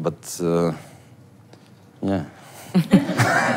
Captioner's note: laugh